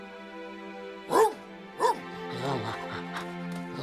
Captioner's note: barking